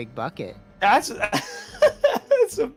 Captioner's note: cuts himself off laughing